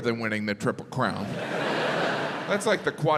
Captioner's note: crowd laughs